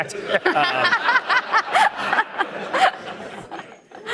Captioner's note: audience laughing